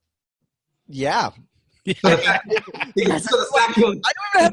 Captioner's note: all laughing